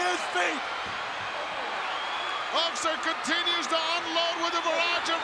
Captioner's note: applause